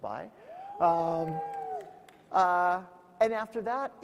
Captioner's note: audience howling